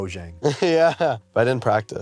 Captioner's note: laughs